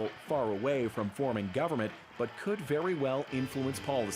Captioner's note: cheers and Applause